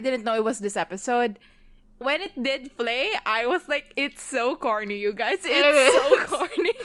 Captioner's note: laughing